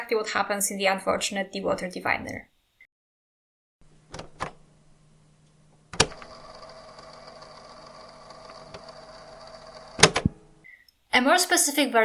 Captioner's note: cassette sound